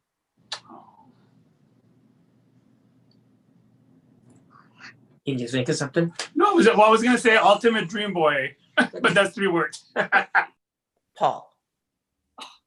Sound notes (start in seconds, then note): 9.8 laughs